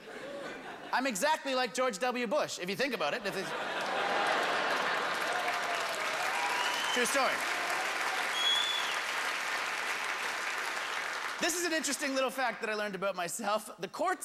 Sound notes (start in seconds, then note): 5.0 audience groans; 7.3 hoots and cheers